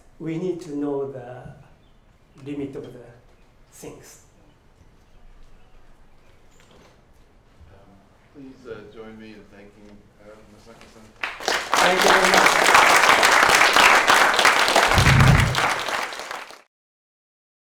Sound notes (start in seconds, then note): 11.2 applause